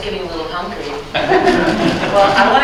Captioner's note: laughter